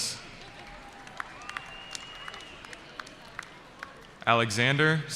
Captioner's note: cheering